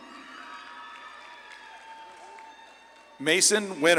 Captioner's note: audience claps and cheers